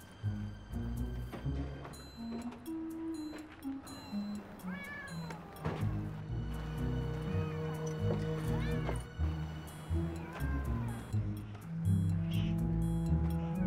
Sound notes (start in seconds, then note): 4.4 cats meowing